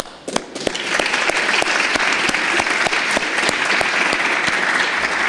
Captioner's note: audience applauds